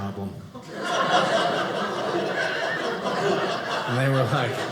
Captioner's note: audience laughing